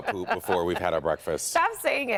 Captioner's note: laughter